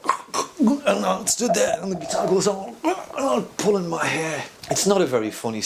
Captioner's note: sounds of a busker choking on his own hair